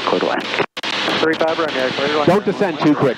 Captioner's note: radio static